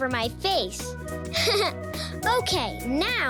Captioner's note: laughing